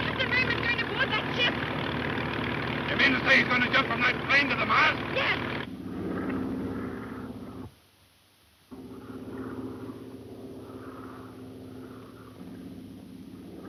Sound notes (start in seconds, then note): 6.3 airplane engine roaring